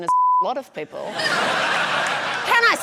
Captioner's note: laughter